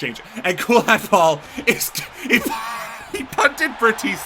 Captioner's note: laughs